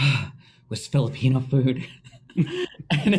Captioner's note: both laughing